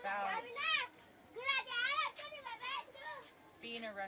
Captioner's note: background voices